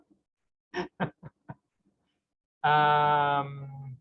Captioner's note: laughs